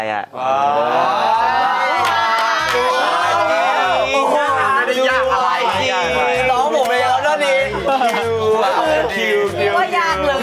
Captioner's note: friends shout out